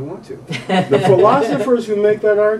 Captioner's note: interviewer laughs